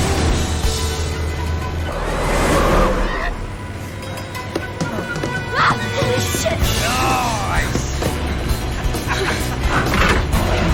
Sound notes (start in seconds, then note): 5.5 screams